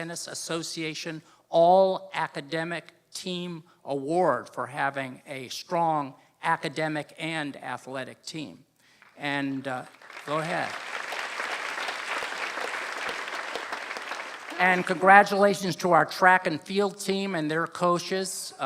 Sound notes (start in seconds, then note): 9.8 applause